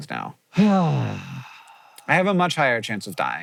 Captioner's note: JOHN sighs